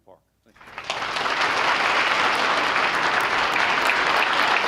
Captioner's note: applause